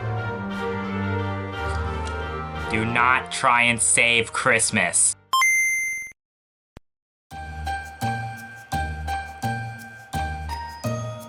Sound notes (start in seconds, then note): 5.1 GameBoy startup sound